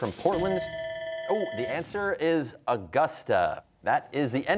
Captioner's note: bell rings